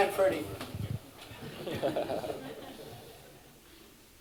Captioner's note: laughter